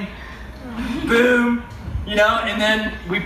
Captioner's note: crowd awws softly